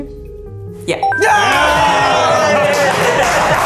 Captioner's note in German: Jubel